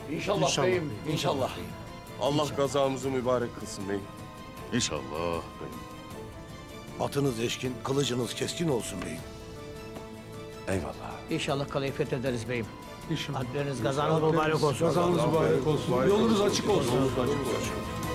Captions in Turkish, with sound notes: (Hep bir ağızdan) İnşallah beyim. Allah gazamızı mübarek kılsın beyim. İnşallah beyim. Atınız eşkin, kılıcınız keskin olsun beyim. (El vurma sesleri) -Eyvallah. -İnşallah kaleyi fethederiz beyim. -(Hep bir ağızdan) İnşallah. -Alplerimiz, gazanız mübarek olsun. (Hep bir ağızdan) Yolunuz açık olsun.